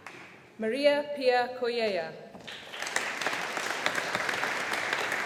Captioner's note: audience applauding